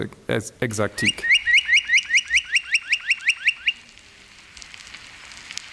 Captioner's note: birds calling